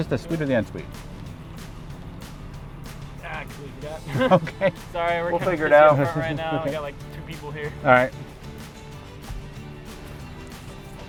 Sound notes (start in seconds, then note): 3.9 laughing